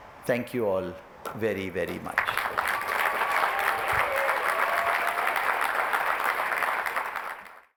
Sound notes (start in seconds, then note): 2.1 applause, cheering